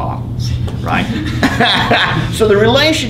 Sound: laughs

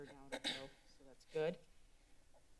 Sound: clears Throat

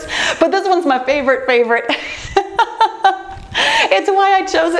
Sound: laughs

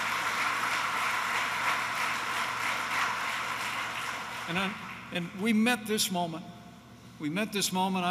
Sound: applause

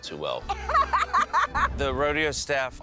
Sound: laughing

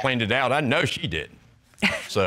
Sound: scoffs

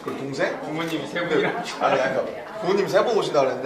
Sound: laughs

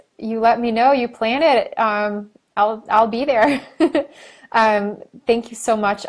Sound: laughing

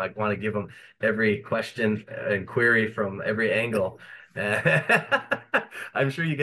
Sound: laughs

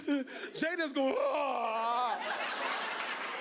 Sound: fake sobbing; loud fake sobbing; audience laughing

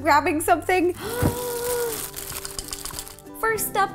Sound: gasp

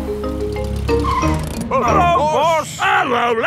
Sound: brakes squeal

